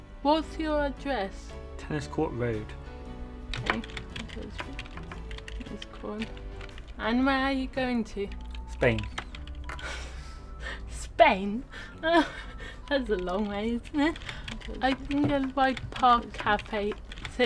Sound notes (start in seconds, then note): 3.5 typing sound; 11.7 laughing